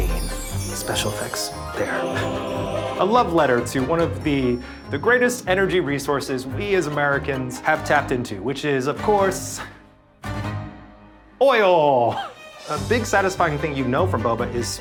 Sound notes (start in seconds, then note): 11.7 laughs